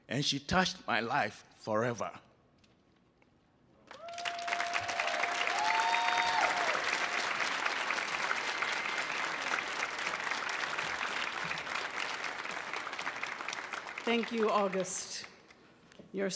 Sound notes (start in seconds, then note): 4.7 audience applauding